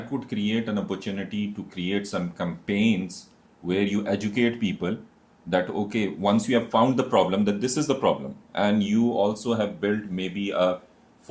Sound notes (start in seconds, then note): none